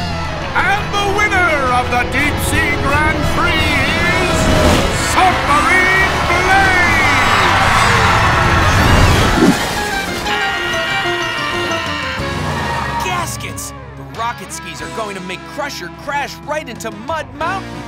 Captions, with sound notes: And the winner of the Deep Sea Grand Prix is... Submarine Blaze! [screaming] Gaskets, the rocket skis are going to make Crusher crash right into Mud Mountain!